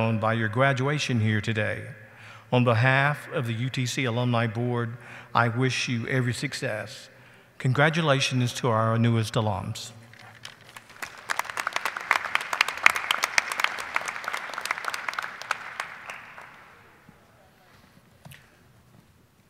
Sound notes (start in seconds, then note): 10.1 audience applauding